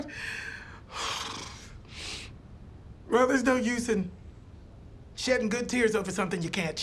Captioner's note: exhaling